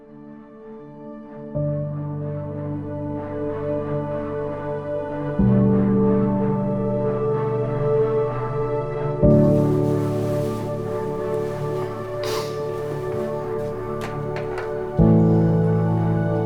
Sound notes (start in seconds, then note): 0.2 gentle music; 9.3 fabric rustling